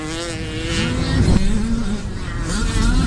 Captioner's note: whoosh sfx